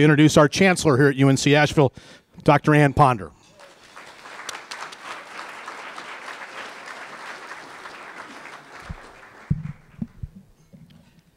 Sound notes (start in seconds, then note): 3.4 applause